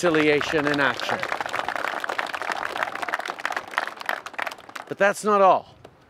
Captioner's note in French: Applaudissements